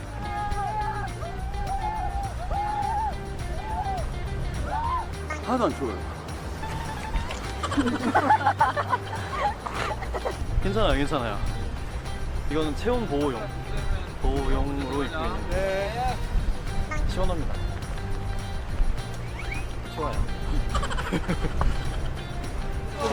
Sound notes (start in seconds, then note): 8.8 shivering